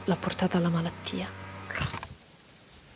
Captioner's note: sneeze